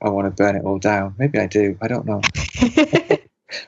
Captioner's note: both laugh